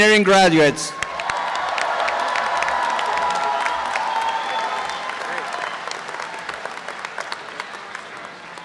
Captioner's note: applause and cheering